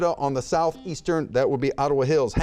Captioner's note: buzzer beeps